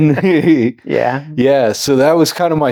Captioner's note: both laughing